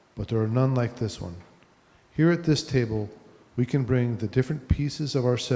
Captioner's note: none